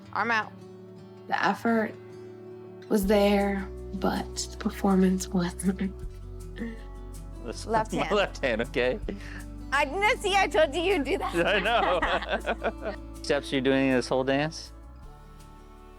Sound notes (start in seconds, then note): 11.1 both laughing